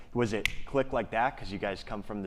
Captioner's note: snaps fingers